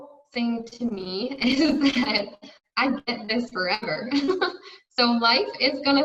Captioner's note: giggles